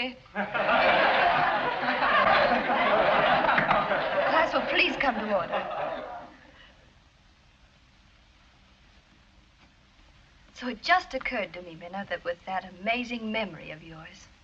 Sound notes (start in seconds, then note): 0.4 class laughs; 3.5 knocks